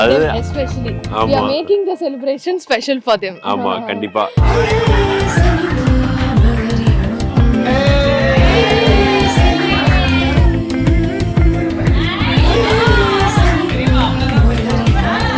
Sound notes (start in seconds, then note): 9.5 people cheering; 14.4 laughs